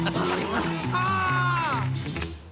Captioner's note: laughter; scream